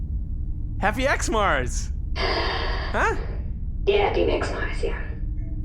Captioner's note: sighs